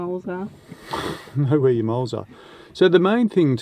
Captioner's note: laughs